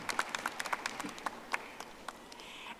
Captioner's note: audience applauding